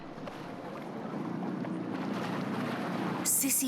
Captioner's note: waves crashing